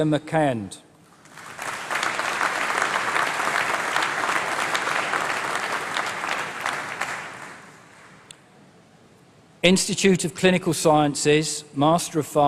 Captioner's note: applause